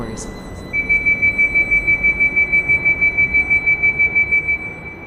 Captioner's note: door warning alarm